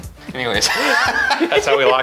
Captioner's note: laughs